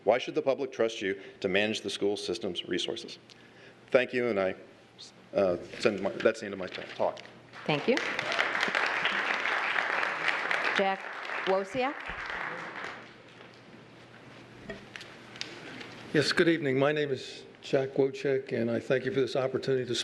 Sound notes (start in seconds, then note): 7.6 applause